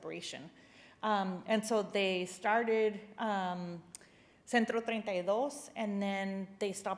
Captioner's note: spanish phrase